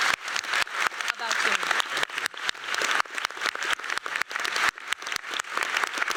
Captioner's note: applause